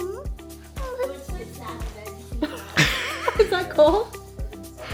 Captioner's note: upbeat music; laughing